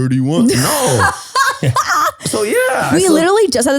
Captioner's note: laughs